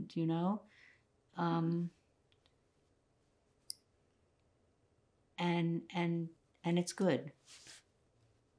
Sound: pauses 6 seconds

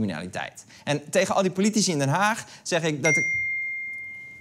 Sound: ping

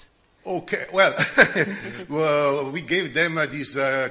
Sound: laughs

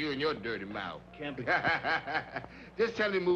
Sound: Roy laughing

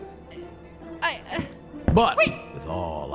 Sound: stammers; squeals

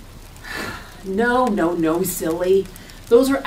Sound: sighs

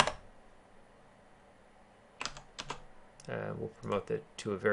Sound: keyboarding

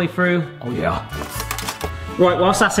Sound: baking tray clatters

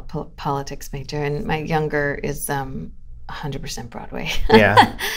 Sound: laughter

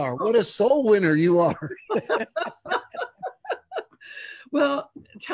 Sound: both laughing

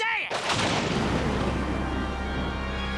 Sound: thunder

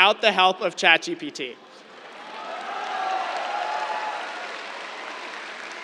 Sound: cheers, applause

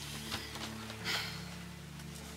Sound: sighs

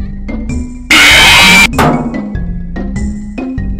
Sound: screeches, Bang

